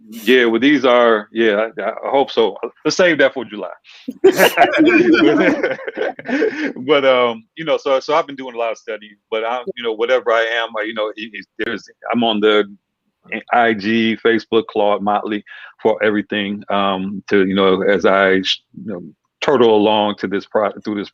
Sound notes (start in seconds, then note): 4.1 group laughing